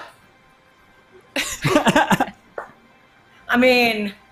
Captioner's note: all laughs